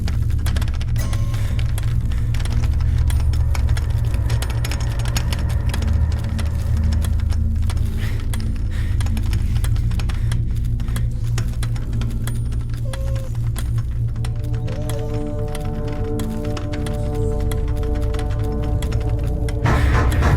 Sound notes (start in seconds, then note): 0.2 door knob rattling; 0.2 gentle, menacing music; 12.7 dog whimpers; 12.8 door rattling; 19.6 loud banging; 19.7 gentle, menacing music